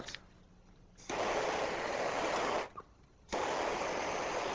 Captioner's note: blowtorch hissing